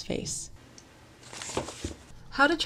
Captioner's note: book rustles